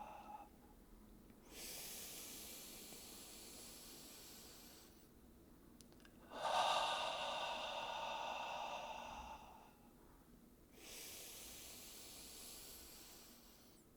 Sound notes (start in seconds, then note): 1.5 inhales; 6.2 exhales; 10.8 inhales